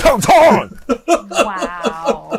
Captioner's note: chuckles